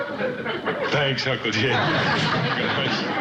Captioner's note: chuckles